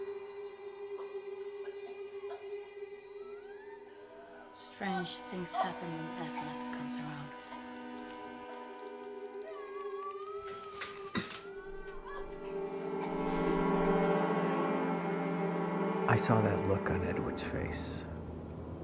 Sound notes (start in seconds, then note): 0.9 Asenath coughing; 7.6 fire crackling; 10.0 Asenath crying; 13.0 eerie music